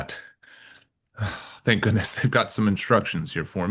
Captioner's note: sighs